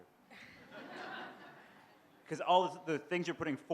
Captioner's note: laughter